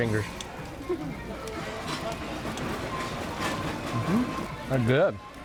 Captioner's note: restaurant chatter